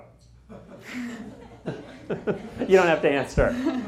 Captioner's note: laughter